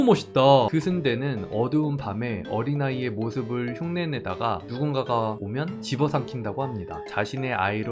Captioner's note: voiceover